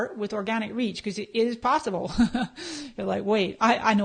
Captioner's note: laughs